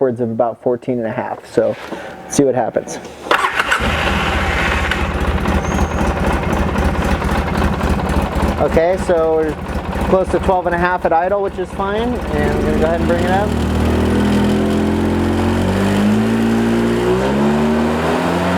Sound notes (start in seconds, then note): 3.6 engine turning over; 14.2 engine revving